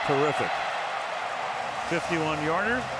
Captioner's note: cheering